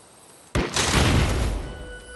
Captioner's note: thud